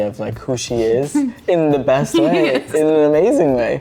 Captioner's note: chuckles